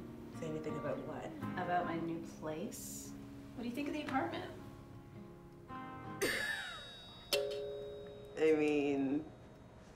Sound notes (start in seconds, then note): 6.4 ding; 6.6 dong